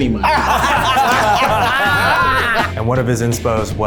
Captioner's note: everyone laughs